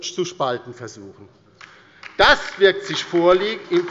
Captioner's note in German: Beifall bei der LINKEN